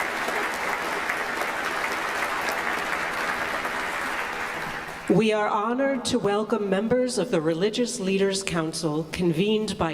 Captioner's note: applause